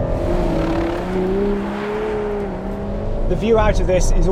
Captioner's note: car revs